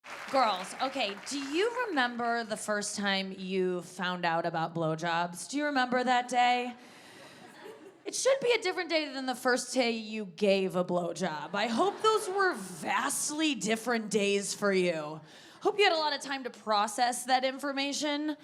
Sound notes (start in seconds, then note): 0.0 audience applauding; 6.9 audience chuckles; 11.5 audience laughs